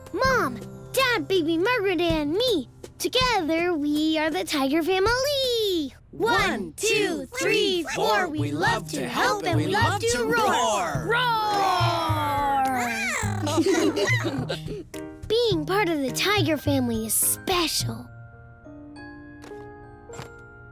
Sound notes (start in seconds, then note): 12.4 family laughing; 12.9 baby purring